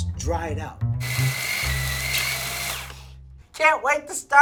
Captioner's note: food processor whirring